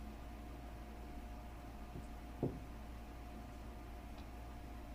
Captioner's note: knocking on door